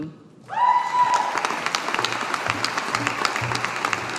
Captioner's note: audience applauding